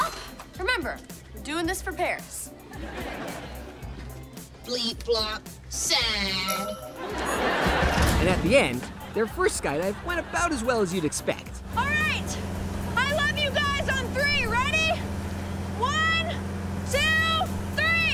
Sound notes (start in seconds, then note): 4.3 robotic voice